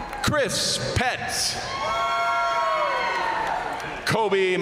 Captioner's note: crowd applauding; crowd cheering; crowd applauding